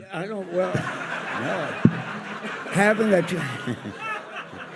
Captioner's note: audience laughs